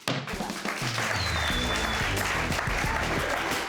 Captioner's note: audience clapping